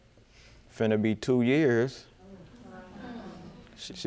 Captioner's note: audience murmuring